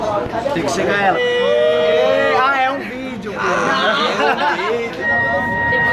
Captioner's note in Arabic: هتاف